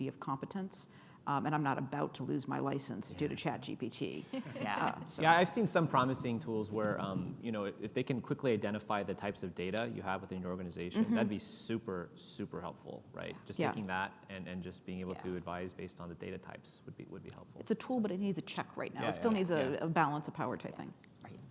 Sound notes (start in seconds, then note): 4.2 laughs